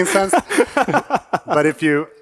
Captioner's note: panelists chuckling